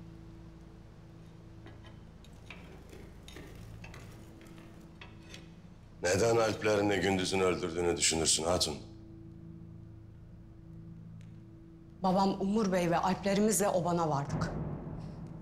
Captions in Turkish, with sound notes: (Metal sesi) Neden Alplerini Gündüz'ün öldürdüğünü düşünürsün hatun? Babam Umur Bey ve Alplerimizle obana vardık.